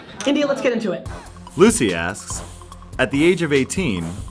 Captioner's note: voiceover